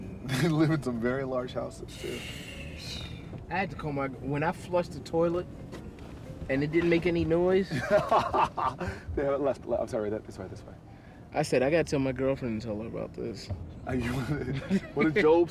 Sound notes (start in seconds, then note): 7.7 laughing